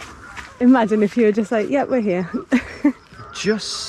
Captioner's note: laughs